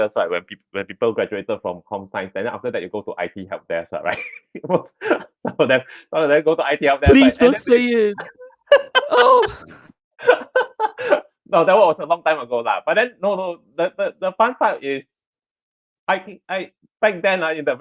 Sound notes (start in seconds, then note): 4.0 laughs; 8.1 laughter